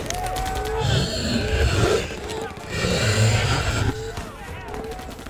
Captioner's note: gunfire pops; distant yelling; vampires growling